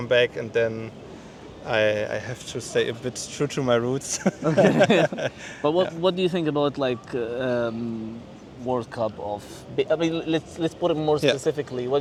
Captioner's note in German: gelächter